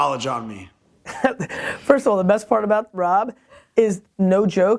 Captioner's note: laughs